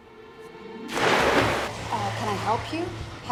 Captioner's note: water splashes